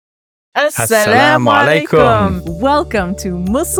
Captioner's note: both speaking non-English language